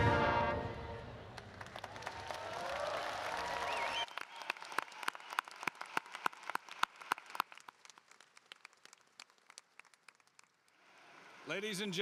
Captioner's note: applause